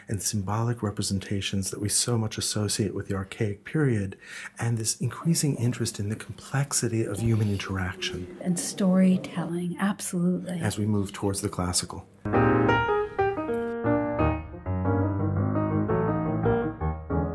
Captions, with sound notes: and symbolic representations that we so much associate with the archaic period, and this increasing interest in the complexity of human interaction. - [Voiceover] And storytelling, absolutely. - [Voiceover] As we move towards the classical. (piano music)